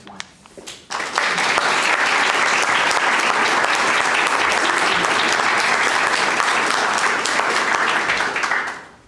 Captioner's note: applause